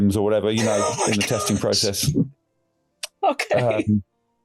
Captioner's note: laughing